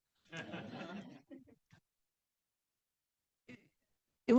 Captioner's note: class laughing